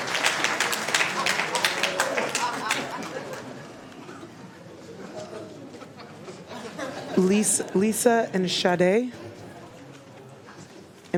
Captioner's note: applause